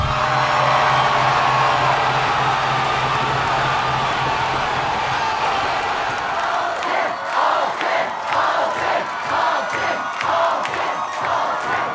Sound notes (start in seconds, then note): 0.2 crowd cheering; 6.3 crowd